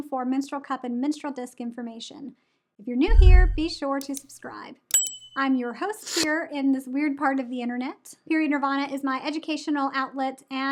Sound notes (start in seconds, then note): 3.1 mouse clicks; 4.9 bell dings